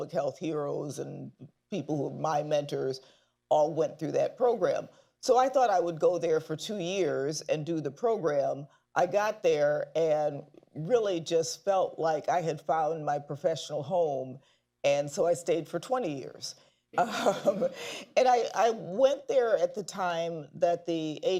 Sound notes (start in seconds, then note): 17.0 laughs